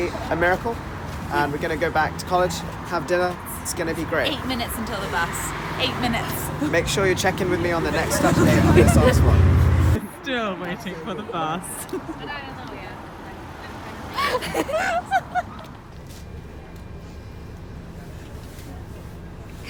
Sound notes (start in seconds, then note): 11.8 laughter